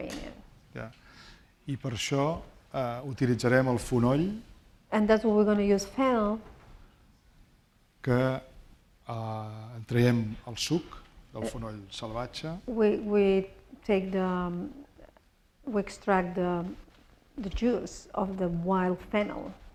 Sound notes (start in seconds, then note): 2.7 speaking spanish; 9.0 speaking spanish